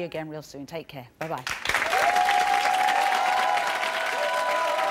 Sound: applause

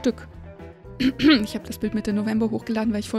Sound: cough

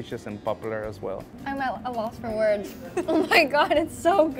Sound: laughs

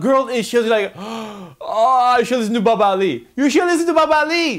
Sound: sighs

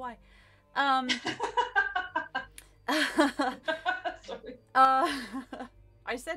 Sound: laugh

